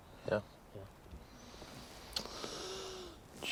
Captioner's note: inhaling sharply